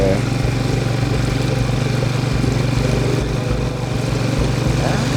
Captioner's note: boat engine revving